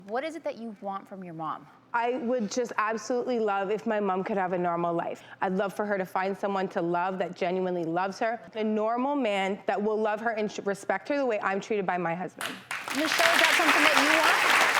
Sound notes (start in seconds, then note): 12.4 audience clapping